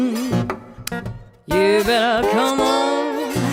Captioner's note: switch clicking